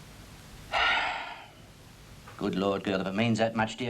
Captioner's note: heavy sighing